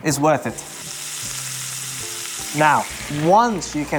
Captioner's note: sizzling sound